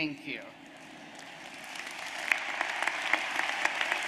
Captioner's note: applause